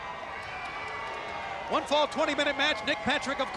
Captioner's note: crowd clamoring